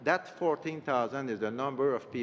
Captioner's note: speaking French